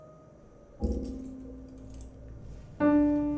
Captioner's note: sound of necklace rattling